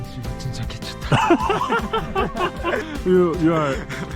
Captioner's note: laughing